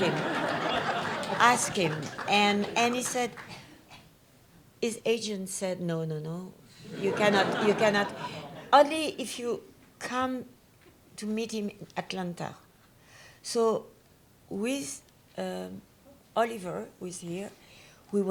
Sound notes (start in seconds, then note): 0.0 audience laughs; 6.8 audience laughs